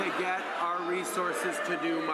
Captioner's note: applause